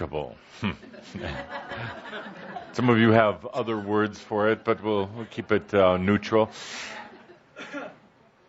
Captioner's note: laughter